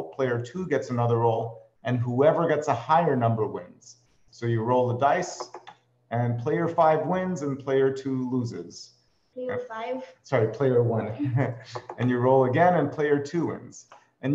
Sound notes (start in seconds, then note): 11.0 chuckles